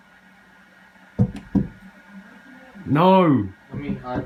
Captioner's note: knocking